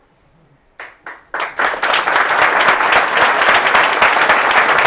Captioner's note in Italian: applauso